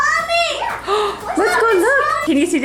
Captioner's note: gasps